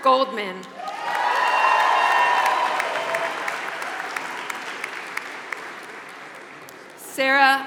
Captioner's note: applause